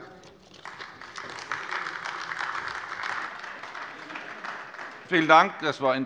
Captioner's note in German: Beifall AfD